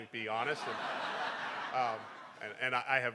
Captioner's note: crowd; laughing